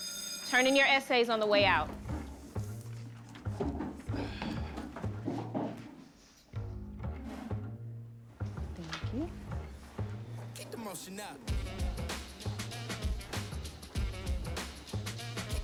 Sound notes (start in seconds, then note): 0.0 bell rings; 3.2 objects rumbling, chairs scrape; 10.4 rap music plays